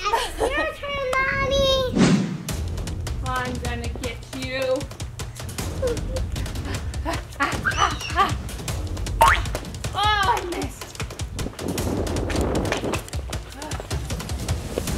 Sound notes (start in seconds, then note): 0.0 laughs; 6.4 panting; 7.7 screams; 9.3 bouncing; 12.0 intense music